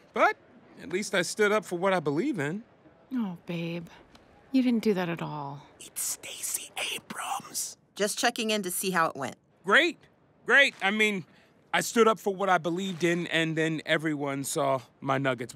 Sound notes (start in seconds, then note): 5.8 whispering